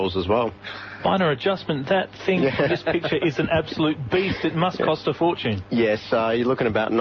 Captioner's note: laughter